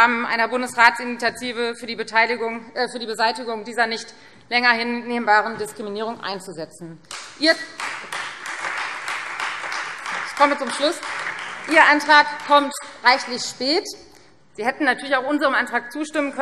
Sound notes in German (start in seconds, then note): 7.7 Beifall Freie Demokraten